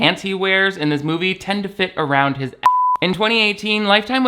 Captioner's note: beep